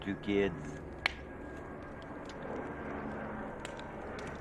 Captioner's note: plane overhead